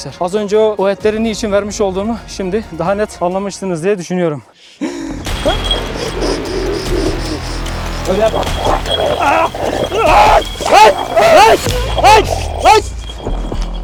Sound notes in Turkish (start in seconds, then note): 5.2 Hırlama sesi ve tansiyon müzik; 8.6 Hırlama ve boğuşma sesleri